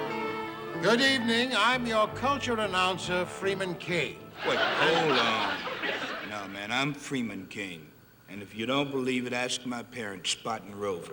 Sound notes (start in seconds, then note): 4.3 audience laughing